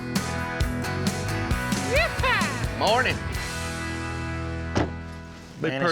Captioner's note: truck door closes